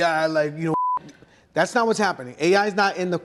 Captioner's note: beep